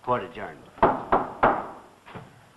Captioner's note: gavel raps